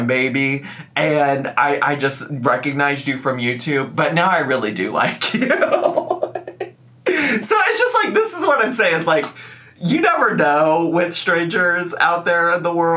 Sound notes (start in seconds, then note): 5.5 laughs